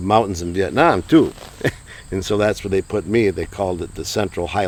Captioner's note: chuckles